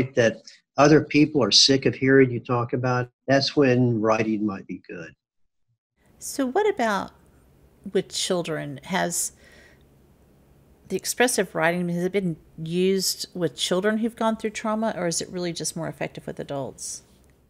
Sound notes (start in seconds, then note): none